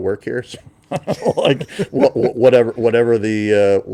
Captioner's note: laughing